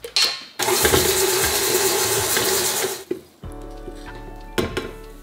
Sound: stand mixer whirring

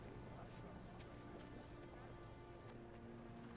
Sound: footsteps; somber music

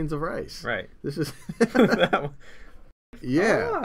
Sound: laughter

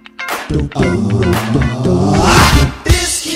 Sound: aaaaaaow!

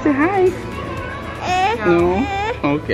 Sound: crying

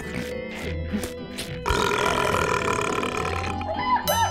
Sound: belching

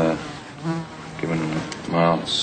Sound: fly buzzing

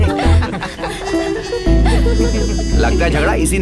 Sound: laughing

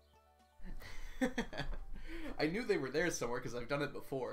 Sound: laughs

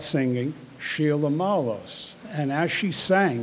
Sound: speaking in foreign language

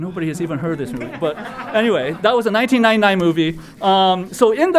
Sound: laugh

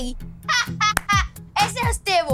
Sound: laughing

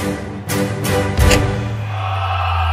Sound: lights switching off; people dissatisfied crowd

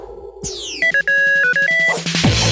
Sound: compowder beeping; theme music

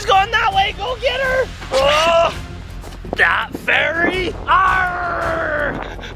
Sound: imitates pirate voice

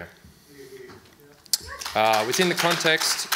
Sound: audience applauds

